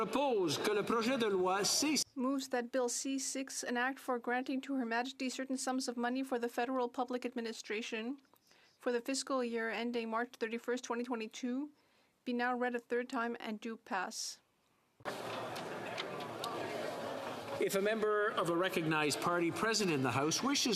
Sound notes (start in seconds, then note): 3.9 speaking French